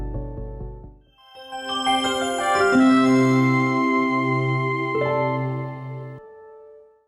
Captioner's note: bright music; computer chimes